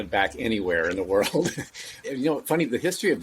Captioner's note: laughs